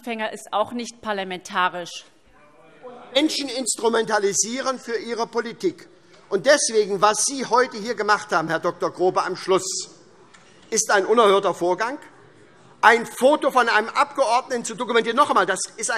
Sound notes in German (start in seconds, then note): none